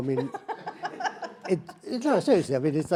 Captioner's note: laughs